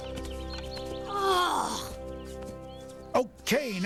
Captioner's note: exasperated sigh